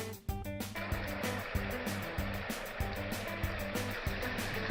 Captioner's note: slowed down water splashing